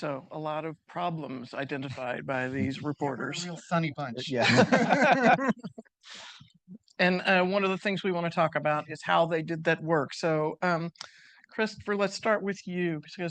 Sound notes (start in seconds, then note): 4.2 participants laughing